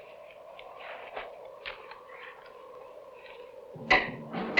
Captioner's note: wind howling